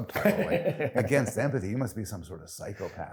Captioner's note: laughing